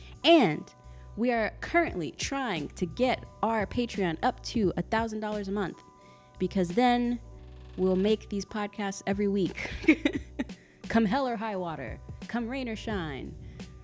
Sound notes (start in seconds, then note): 9.6 laughing